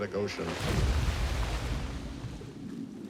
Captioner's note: splash